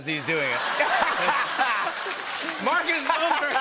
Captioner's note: laughter